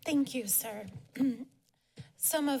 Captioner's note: clears throat